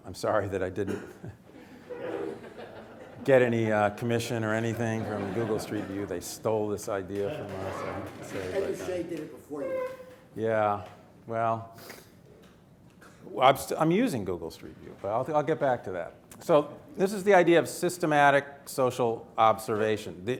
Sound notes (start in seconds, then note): 7.2 audience laughing